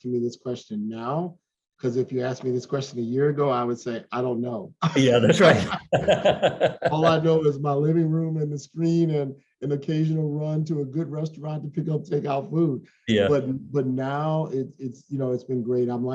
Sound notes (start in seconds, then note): 4.8 laughs